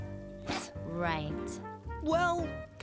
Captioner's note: snorts